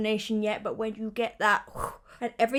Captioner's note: lips whoosh